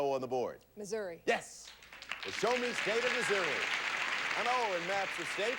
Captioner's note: audience applauding